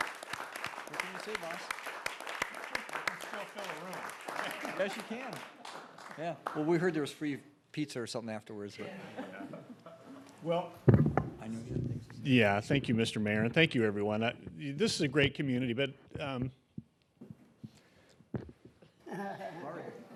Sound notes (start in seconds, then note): 5.5 applause